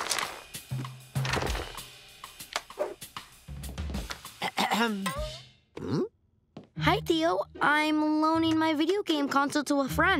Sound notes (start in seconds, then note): 4.4 Tío Carlos clears his throat